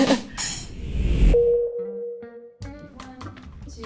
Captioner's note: title beeps